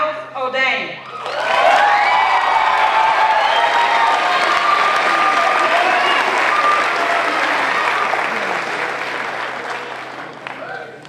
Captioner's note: applause